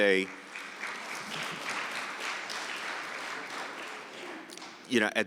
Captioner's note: audience applauding